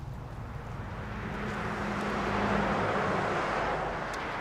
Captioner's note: cars whirring